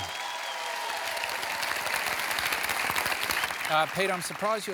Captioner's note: cheering